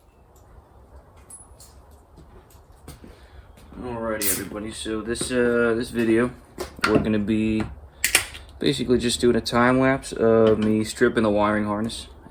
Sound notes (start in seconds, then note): 8.0 cracks Beer